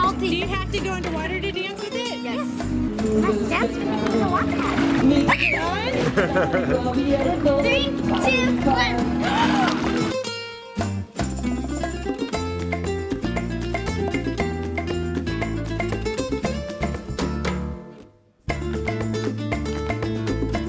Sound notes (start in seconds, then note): 5.2 screams; 10.8 spanish music